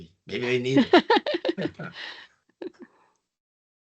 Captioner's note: laughing